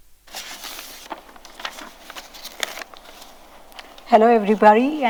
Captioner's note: paper rustling